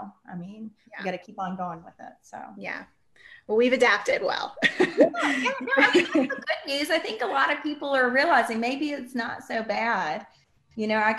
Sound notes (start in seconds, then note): 4.6 laughs